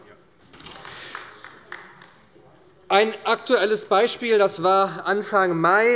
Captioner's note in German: Beifall bei der SPD - Präsident Norbert Kartmann übernimmt den Vorsitz